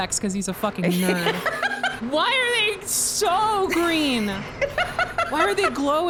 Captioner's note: laughs